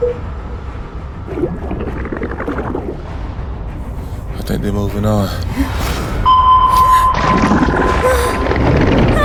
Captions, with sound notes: (water bubbling) - I think they're moving on. (sonar pinging)